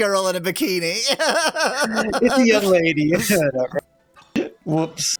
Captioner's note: laughs